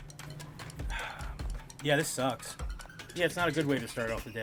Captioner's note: sighs